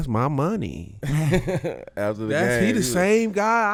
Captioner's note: laughing